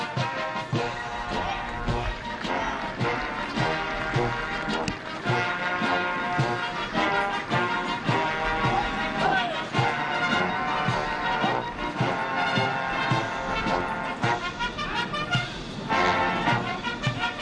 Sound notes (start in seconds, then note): 1.2 applause; 6.8 patriotic music